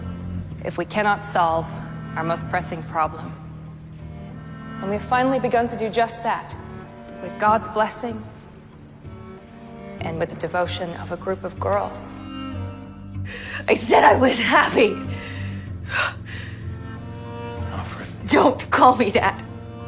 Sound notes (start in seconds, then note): 13.7 voiceover; 14.2 shouting